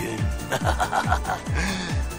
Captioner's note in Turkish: gülme sesi̇